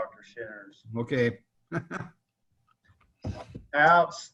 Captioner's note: chuckling